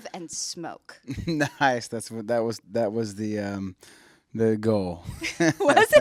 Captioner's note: laughs